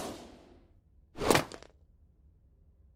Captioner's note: swoosh!; basket thuds